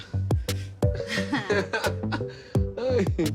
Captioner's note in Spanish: Risas